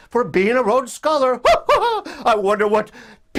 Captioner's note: laughs